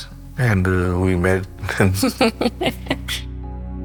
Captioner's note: laughter